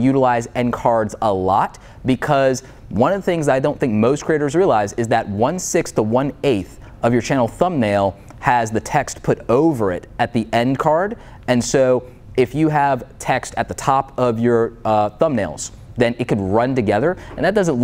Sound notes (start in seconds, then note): none